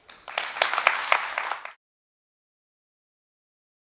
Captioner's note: audience applauding